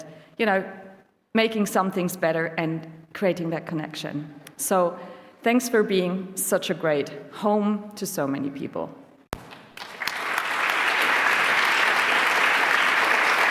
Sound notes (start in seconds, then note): 9.4 applause